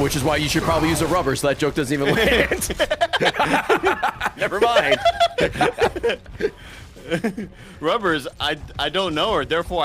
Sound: laughs

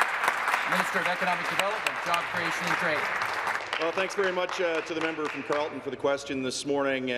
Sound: applause

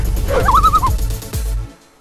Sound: loon call

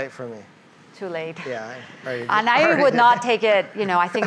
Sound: laughs

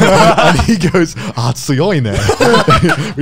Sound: speaks Japanese

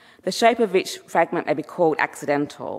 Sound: none

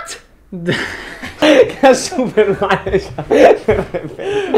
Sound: laugh

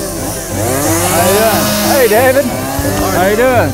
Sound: chainsaw

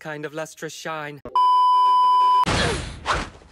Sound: beep

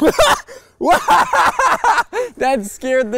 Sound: laughing

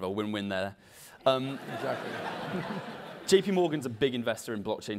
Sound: laugh

